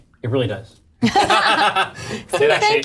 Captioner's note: all laugh